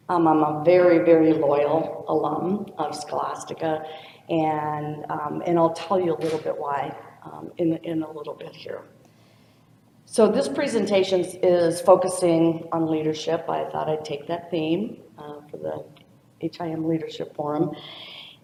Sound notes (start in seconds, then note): none